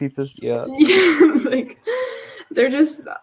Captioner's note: laughing